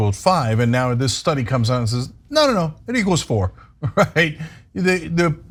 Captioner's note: laugh